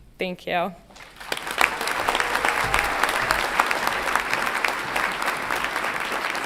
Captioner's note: audience applauds and cheers